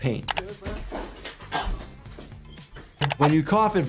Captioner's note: Speedy coughing